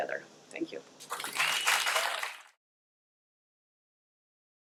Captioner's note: audience applauding